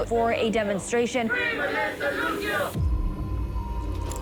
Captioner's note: chanting; dramatic music plays